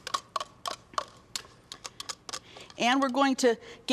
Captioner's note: spoon clanking